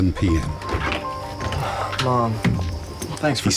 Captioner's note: sighs